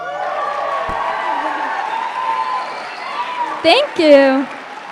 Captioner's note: applause